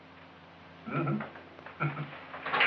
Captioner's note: chuckles